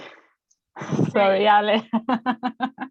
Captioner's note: laughs